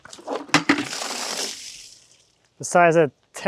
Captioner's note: water splashing